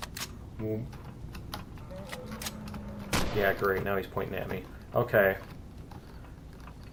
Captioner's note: gun clicks; guns clicking; reloading